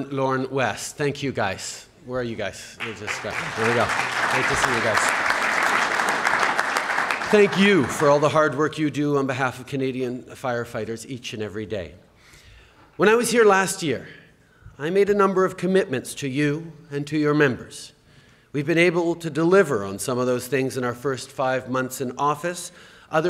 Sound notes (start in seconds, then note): 2.8 applause